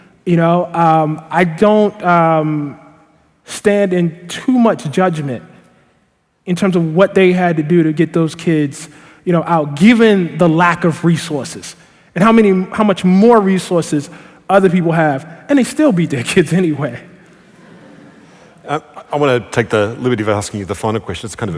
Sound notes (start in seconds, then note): 17.4 laughter; 17.4 laughing